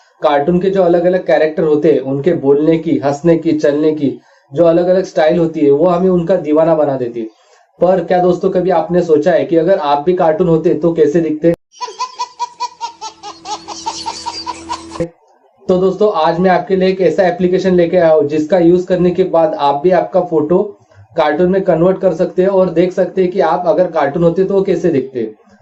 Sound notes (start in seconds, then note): 11.7 Baby laughing